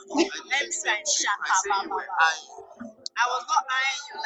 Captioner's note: speaking in tongues